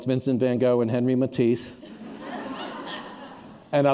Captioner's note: laughter